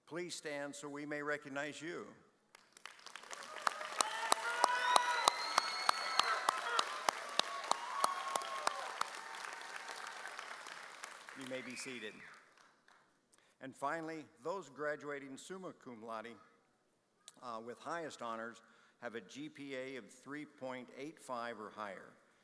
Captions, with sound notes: please stand so we may recognize you. (audience cheers) You may be seated. And finally, those graduating summa cum laude with highest honors have a GPA of 3.85 or higher.